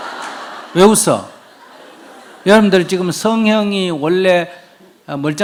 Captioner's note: audience Laughter